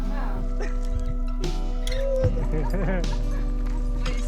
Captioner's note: laughter